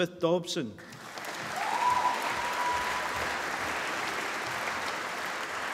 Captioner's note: applause